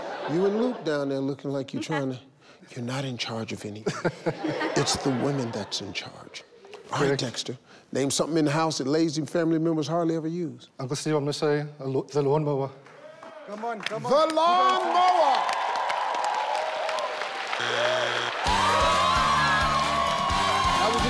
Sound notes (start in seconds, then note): 15.3 audience clapping; 17.5 buzzer buzzes; 17.6 upbeat music; 18.6 family cheering